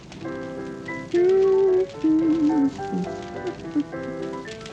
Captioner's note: she hums, a new song begins